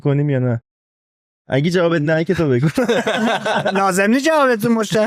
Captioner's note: laughs